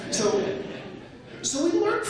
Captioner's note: laughter